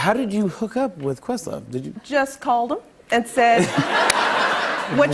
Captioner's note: laughter